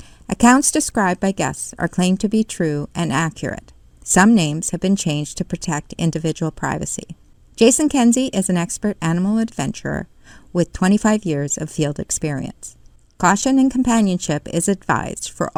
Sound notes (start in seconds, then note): none